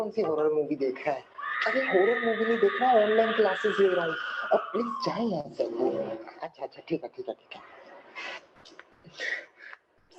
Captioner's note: speaking in Urdu; woman screams; speaking in Urdu